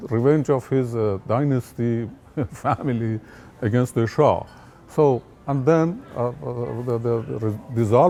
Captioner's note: laughs